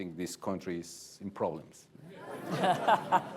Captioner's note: laughter